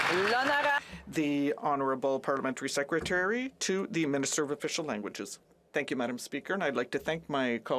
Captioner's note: some Applause